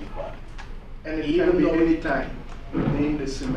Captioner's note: voiceover